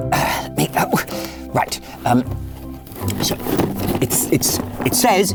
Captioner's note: box rustles